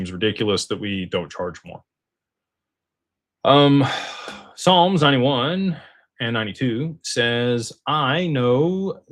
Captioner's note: sighs